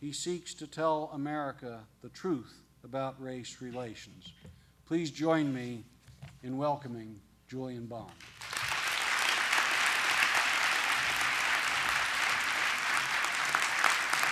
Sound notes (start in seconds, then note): 8.1 applause